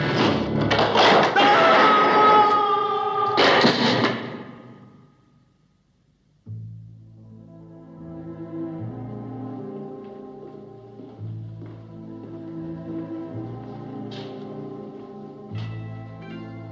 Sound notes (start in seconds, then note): 1.3 screams